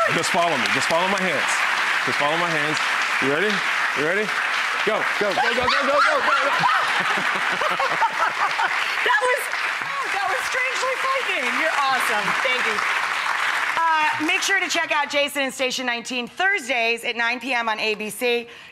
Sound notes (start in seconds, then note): 5.5 screams; 7.1 laughs